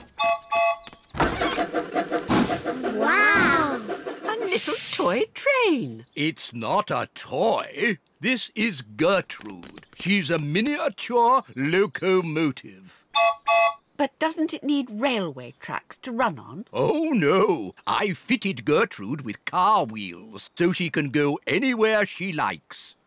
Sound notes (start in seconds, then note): 0.2 train whistle toots; 13.1 toots whistle